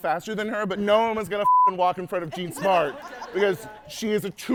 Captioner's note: beep